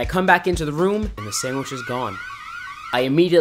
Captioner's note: alarms blaring